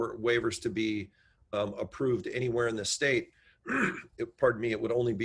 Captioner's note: coughs